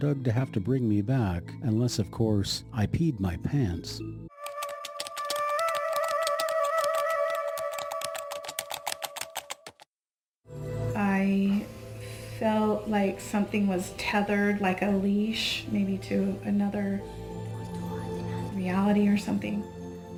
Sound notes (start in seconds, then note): 4.3 eerie music; 4.4 keys typing